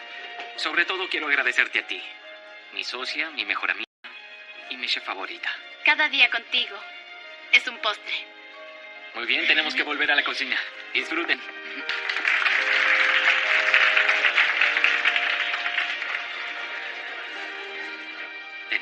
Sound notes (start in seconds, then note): 11.7 applause